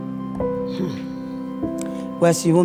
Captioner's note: sighs